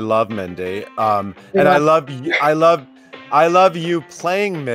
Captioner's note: laughs